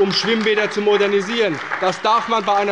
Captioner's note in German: Beifall bei der CDU und dem BÜNDNIS 90/DIE GRÜNEN